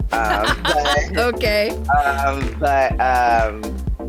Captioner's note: laughs